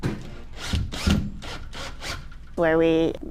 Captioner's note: electric drill whirring